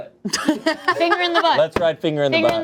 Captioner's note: laughs